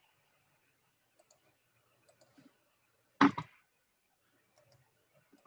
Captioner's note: computer keyboard clicking